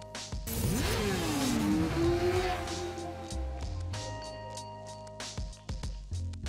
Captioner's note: upbeat music; motorbike engine roaring